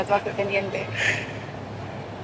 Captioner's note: laughing